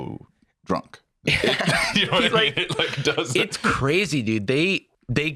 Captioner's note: laughs